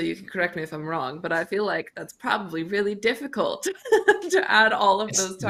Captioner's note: chuckles